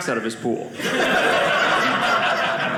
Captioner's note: audience laughing